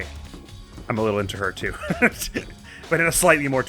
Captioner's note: giggles